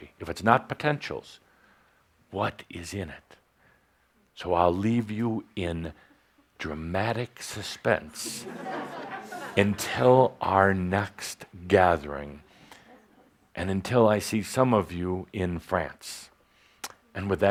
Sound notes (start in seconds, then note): 8.2 laughter